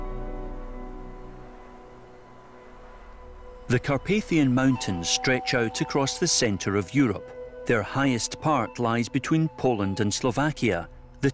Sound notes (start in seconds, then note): none